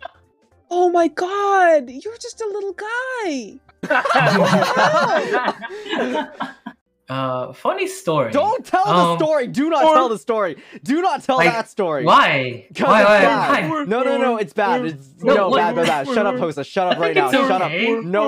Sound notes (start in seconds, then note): 3.8 boys burst out laughing